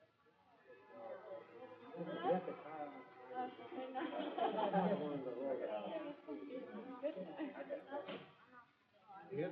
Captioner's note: midway chatter